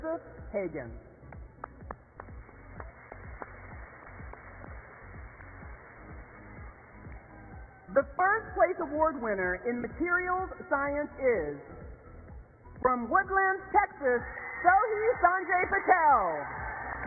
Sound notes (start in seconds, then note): 6.2 applause